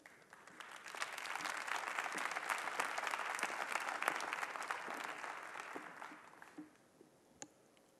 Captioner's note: applause